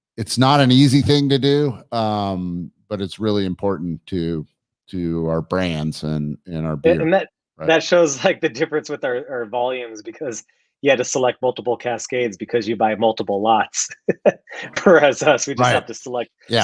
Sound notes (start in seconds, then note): 13.8 laughs